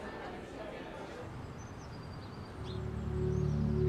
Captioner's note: birds chirping